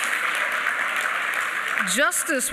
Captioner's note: applause